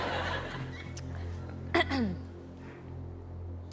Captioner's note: clears throat